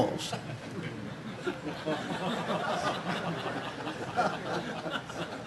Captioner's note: audience laughing